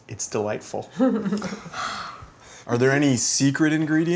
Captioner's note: laughing